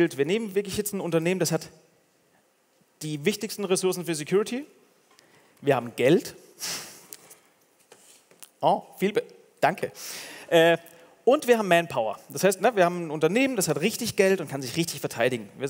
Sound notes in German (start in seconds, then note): none